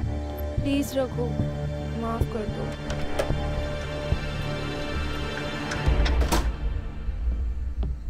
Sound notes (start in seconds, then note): 2.5 Door opens; 5.1 Door closes